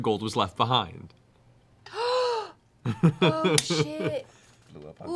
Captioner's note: gasps